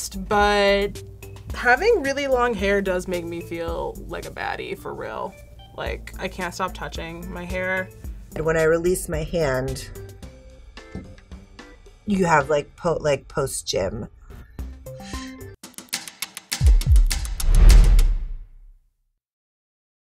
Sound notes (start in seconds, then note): 15.3 inhales; 16.4 happy synthesized music